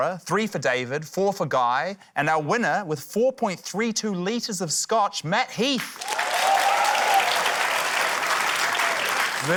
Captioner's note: cheering, applause